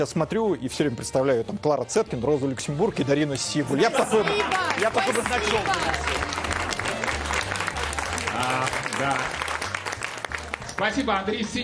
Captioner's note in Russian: аплодисменты